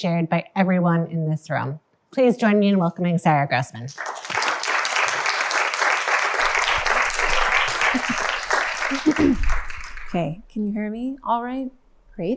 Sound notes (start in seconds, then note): 3.9 applause